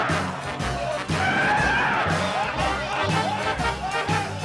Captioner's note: men yelling